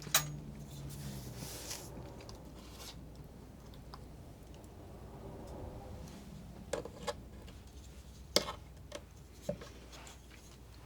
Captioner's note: scratching